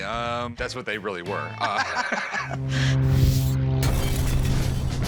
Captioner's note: laughter